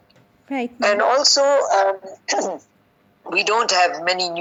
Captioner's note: sneezing